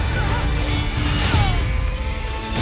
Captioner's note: soldiers yelling and groaning